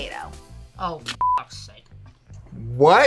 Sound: beep

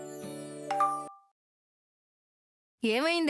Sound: phone rings

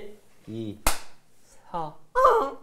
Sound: clap

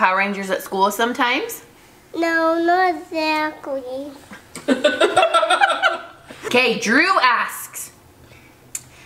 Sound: laughing

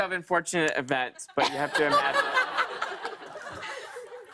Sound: laughter

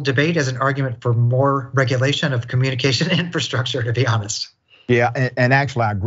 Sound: laugh

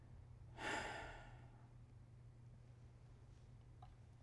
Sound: sighing

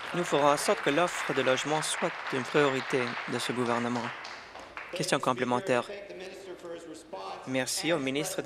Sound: applause

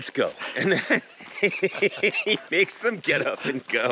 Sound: Conan laughs

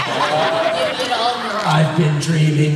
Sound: laughter

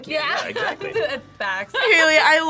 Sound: laughs

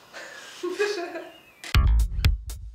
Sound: laugh

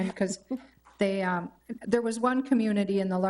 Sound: chuckles

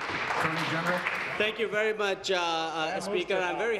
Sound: applause

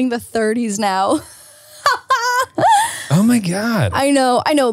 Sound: laughs

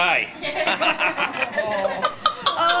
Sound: all laughing

